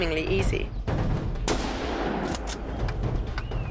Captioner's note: gunshot